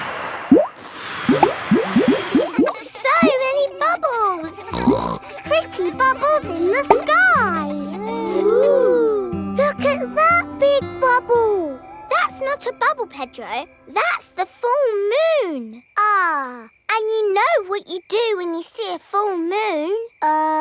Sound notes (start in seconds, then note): 0.4 all blowing; 4.6 snorts